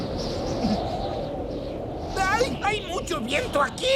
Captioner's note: wing whistling